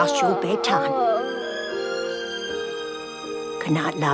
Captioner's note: chip yawning